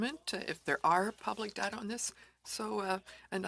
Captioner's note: speaking french